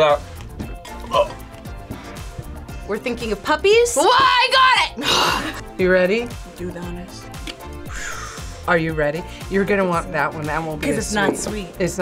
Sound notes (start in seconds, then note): 0.2 gags; 5.3 grunts